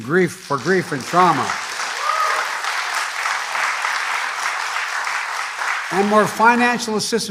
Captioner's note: applause